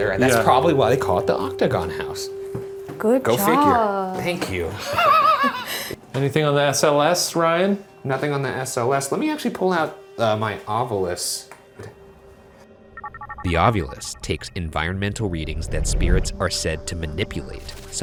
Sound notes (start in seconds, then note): 4.7 laughing; 11.9 eerie music